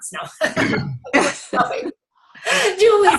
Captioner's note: laughs